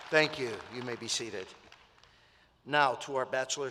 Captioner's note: applause